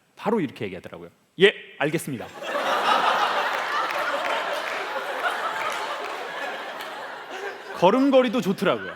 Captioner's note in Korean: 웃음